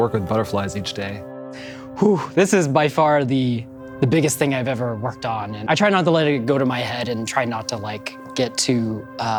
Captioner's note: exhales